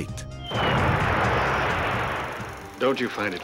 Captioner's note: bomb exploding